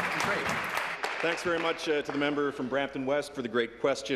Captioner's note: applause